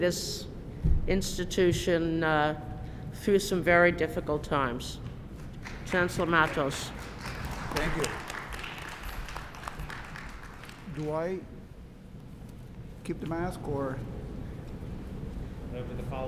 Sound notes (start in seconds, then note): 7.6 applause